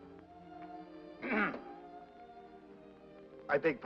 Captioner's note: soft sentimental music; clears throat